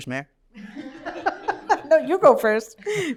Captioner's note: laughter